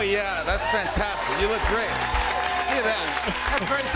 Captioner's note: cheers and applause